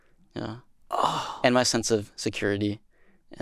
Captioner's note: gasps